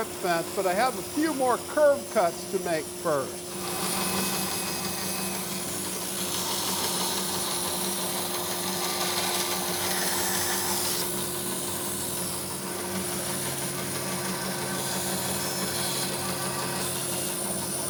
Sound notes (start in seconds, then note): 3.4 machine vibrating and hissing